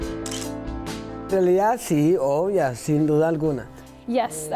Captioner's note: speaking foreign language